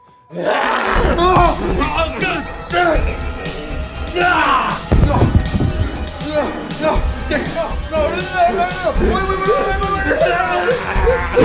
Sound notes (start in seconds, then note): 0.4 screams; 0.8 Dave growls